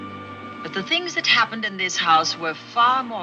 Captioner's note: voiceover